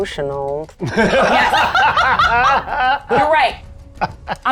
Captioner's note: players laughing